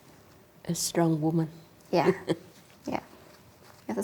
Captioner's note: laughs